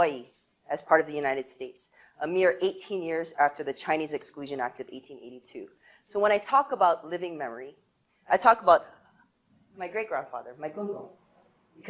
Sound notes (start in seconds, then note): none